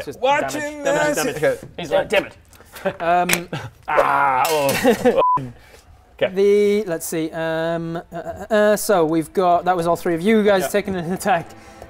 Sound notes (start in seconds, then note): 3.3 snap